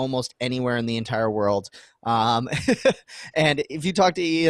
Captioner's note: laughing